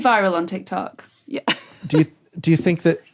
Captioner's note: giggles